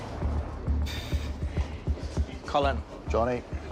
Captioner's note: sighs